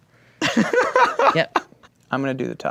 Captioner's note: laughing